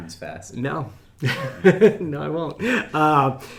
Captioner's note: men chuckling